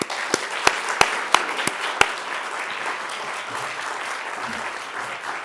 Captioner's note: audience clapping